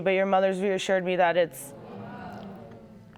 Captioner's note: audience moaning